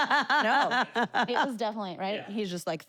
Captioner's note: laugh